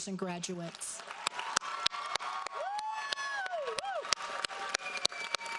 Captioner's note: audience applauds